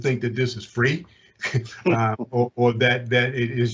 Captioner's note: chuckles